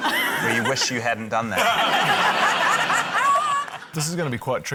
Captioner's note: laughter